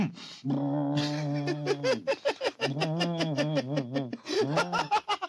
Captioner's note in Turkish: yüksek sesle güler